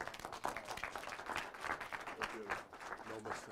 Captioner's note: applause